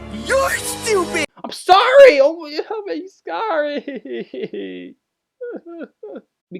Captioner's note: cries like a bitch